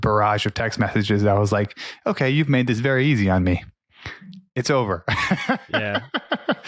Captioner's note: laughs